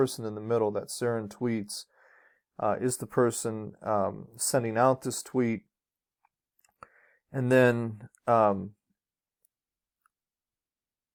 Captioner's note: dramatic pause